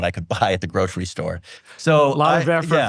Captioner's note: chuckles